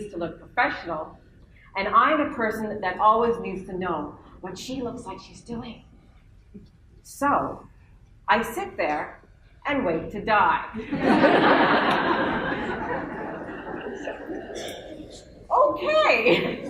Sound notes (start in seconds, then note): 10.7 laughter